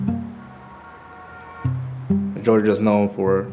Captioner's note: birds chirping; horns honking